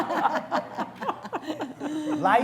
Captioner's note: laughter